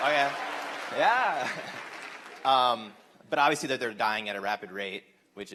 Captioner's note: applause